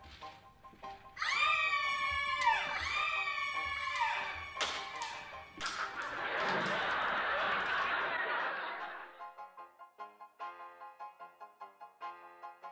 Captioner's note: women in lady's room screaming